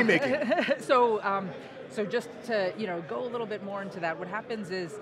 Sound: laughing

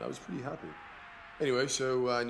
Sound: crowd exclaims

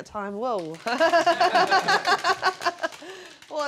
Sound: wheel clacking

